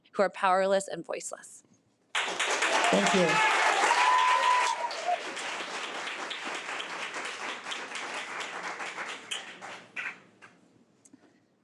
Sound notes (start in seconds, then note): 2.3 audience applause